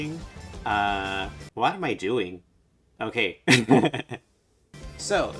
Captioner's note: laughs